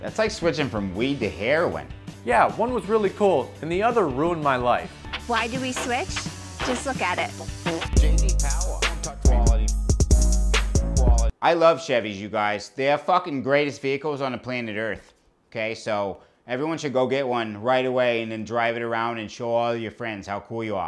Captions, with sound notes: That's like switching from weed to heroin Yeah, one was really cool and the other ruined my life Why do we switch? Just look at it [fart noise] I love Chevys you guys They're the greatest fucking vehicles on the planet Earth OK, so everyone should go get one right away and drive it around and show all your friends how cool you are